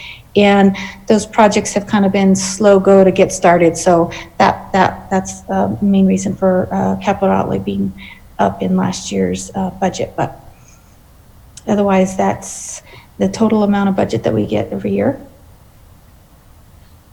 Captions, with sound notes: money that we are participating with is (mic cutting out) then we are obviously -- we have our money available. The match money for the security projects and those projects have kind of been slow go to get started. So that